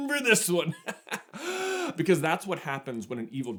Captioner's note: chuckle